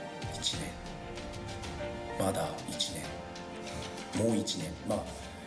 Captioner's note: speaking foreign language